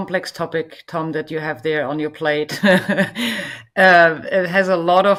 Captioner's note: chuckles